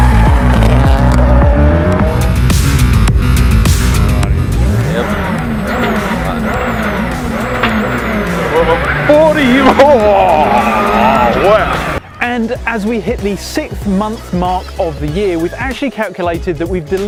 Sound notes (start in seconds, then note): 0.0 fast, loud music; 0.2 engine Revving; 1.3 fast, loud music; 4.7 engine Revving